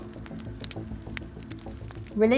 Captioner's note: fire crackles